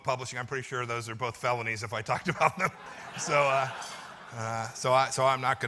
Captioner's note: laughter